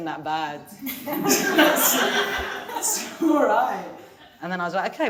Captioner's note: audience laughing